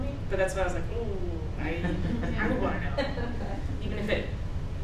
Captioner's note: laughs